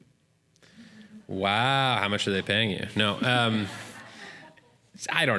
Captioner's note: laughter